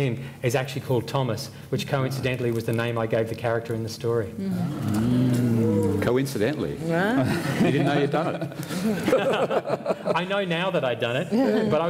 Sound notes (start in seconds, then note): 4.5 oohing; 7.2 laughter